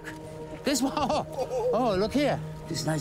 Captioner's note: laughs